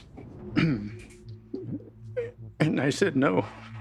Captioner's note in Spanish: carraspea